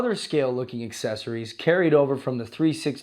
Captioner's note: voiceover